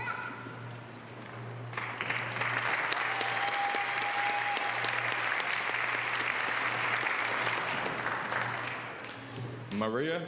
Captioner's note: applause